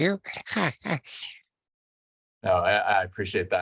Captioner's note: chuckles